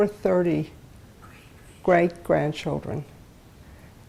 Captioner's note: whispering